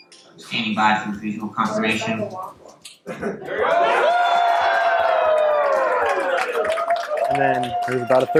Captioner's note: cheering; applause